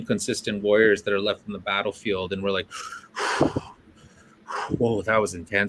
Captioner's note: breathes in and out heavily